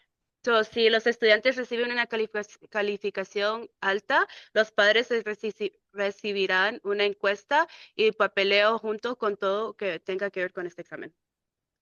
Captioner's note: speaking in Spanish